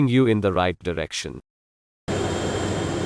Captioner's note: aircraft noise